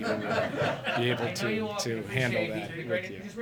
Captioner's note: laughter